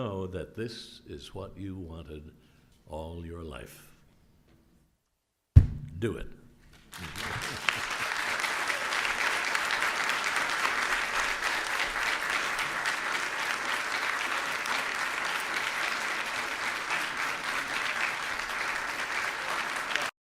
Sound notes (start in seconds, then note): 9.0 applause